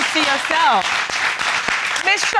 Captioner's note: audience applauds